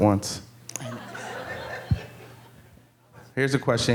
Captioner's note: audience laughing